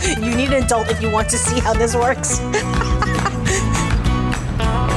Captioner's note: laughs